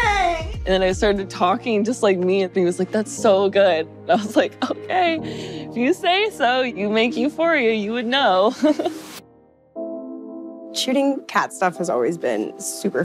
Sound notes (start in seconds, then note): 8.6 chuckles